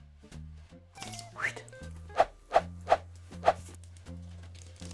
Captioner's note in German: pfeift